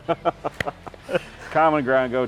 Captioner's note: both laughing; clapping